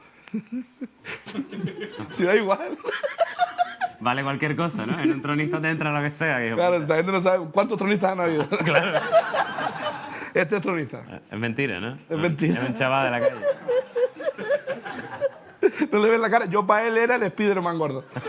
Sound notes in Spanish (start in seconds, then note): 3.2 Risas; 8.4 Risas; 13.9 Risas